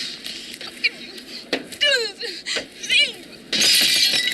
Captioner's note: sobs